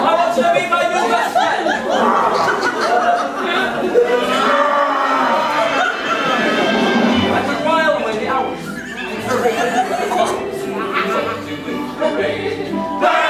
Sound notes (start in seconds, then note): 2.1 audience laughing; 4.4 growling